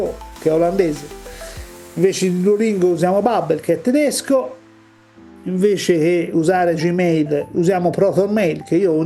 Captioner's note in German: deutsch